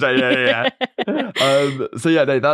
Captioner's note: laughs